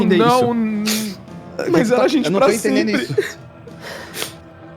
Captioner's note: crying